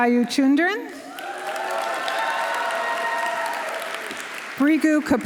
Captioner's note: audience cheering; audience applauding